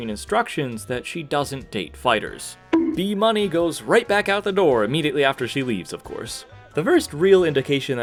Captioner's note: bonk